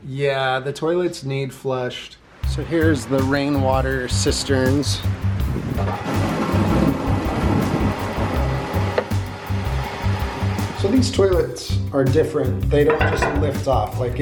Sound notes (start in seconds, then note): 5.1 upbeat music; 6.1 water splashing